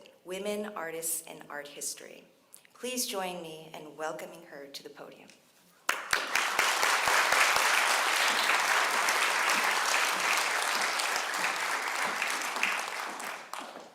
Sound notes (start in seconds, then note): 5.8 applause